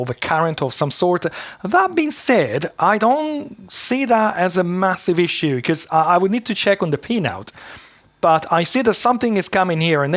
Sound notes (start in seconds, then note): none